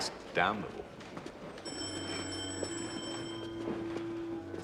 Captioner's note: Telepon berdering